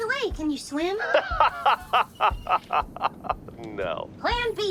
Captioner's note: overextended, big, and almost fake laughter